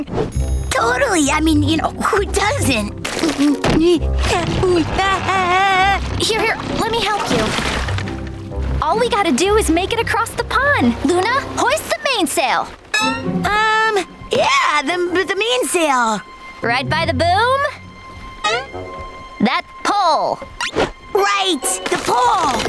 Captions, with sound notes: Totally, I mean, you know, who doesn't? [groaning] Here, let me help you. All we gotta do is make it across the pond. Luna, hoist the mainsail! Um, yeah, the main sail. Right by the boom? -That pole! -Right, the pole!